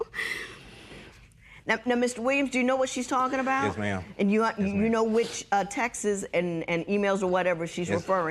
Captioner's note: voice breaking